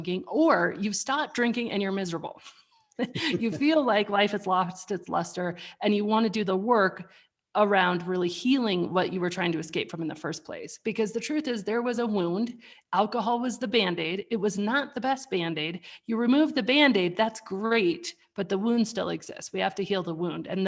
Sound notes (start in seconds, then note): 3.0 laughs